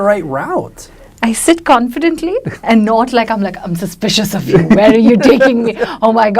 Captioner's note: laughs